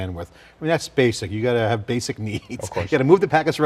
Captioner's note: laughing